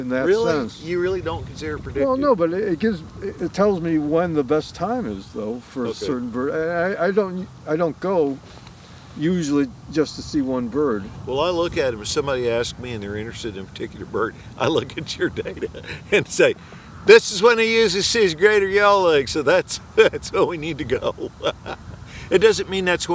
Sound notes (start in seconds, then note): 14.6 laughs